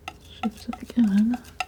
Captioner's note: tapping